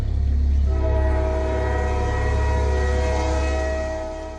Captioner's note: train whistling